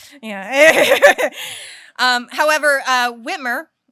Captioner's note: laughs